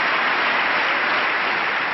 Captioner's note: applause